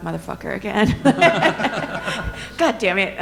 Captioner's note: all laughing